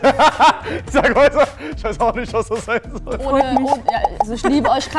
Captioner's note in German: lachend